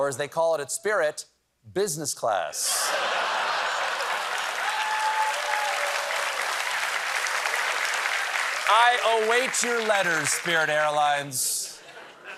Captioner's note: applause